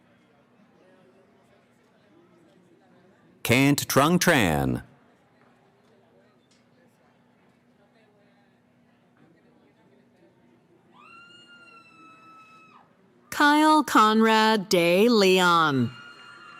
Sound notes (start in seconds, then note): 11.0 cheering; 15.9 cheering